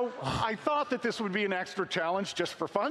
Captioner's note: laughing